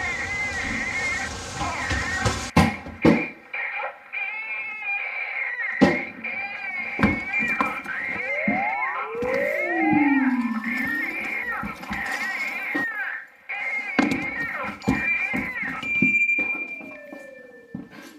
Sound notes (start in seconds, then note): 0.1 baby crying; 9.5 high pitch sound; 13.5 baby crying